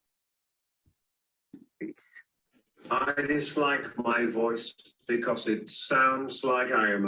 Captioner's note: old voice